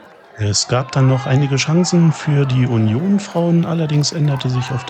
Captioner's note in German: Jubel